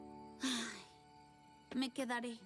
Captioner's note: sigh